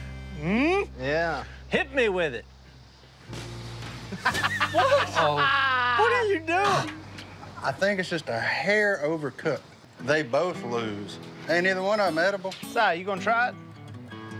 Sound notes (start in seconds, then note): 2.6 spits; 4.1 laughs; 4.4 gags